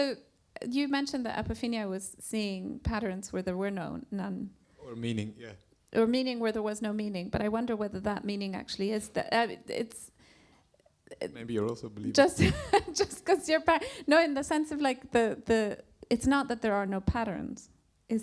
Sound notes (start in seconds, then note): 13.2 laughs